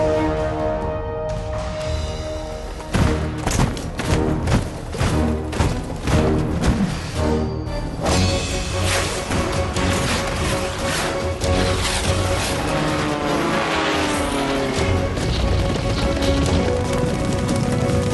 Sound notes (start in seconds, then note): 12.9 fighter jet engine buzz; 14.0 galloping hooves